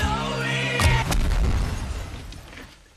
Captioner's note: explosion rumbling